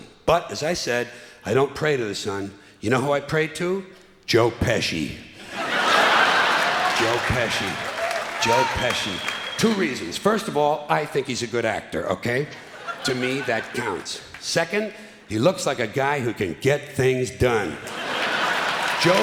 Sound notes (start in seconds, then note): 5.6 clapping and cheering